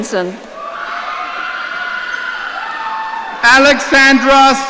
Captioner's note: audience cheering